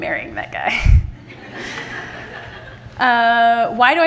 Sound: everyone laughing

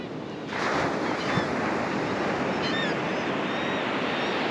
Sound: the sounds of Laughing Gulls nearby

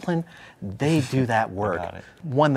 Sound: chuckles

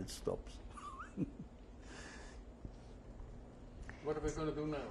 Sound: laughs

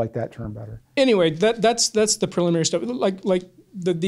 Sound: voiceover

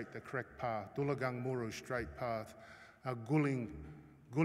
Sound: non-english speech

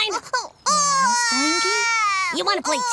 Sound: Glimmer crying

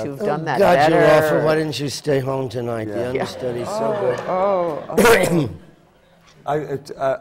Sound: coughing

